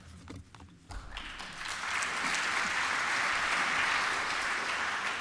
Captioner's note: applause